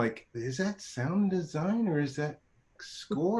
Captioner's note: chuckling